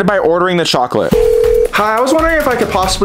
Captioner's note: phone beeping